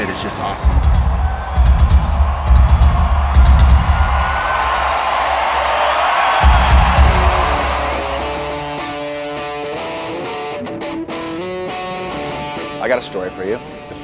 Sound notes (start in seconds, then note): 0.0 fans cheering; 0.0 drums pounding; 6.4 upbeat rock music